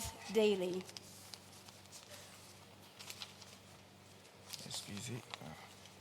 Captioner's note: paper rustles